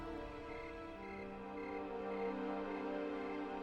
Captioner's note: crickets chirping